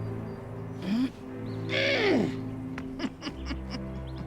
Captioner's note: grunts, tightening; giggling